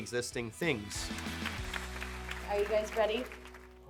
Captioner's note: audience applauding